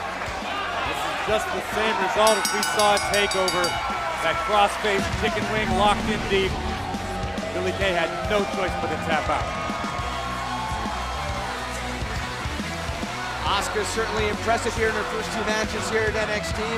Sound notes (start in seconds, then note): 10.4 cheers & applause